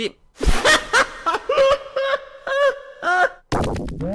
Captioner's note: laughing